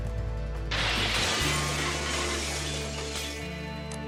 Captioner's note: breaking glass